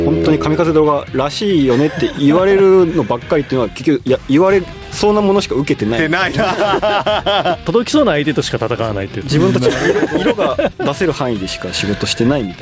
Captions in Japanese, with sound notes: 本当に髪風動画らしいよねって言われるのばっかりってのは結局いや言われそうなものしか受けてない。 てない。[笑い] 届きそうな相手としか戦わないって。 自分たち色が出せる範囲でしか仕事してないみたいなね。